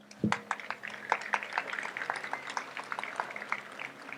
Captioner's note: audience applauds